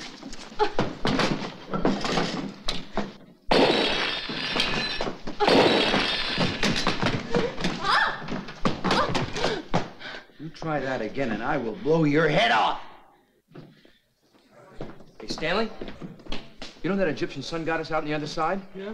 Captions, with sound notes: (grunting) (crashing) - You try that again and I will blow your head off. - Hey, Stanley. You know that Egyptian sun goddess out on the side?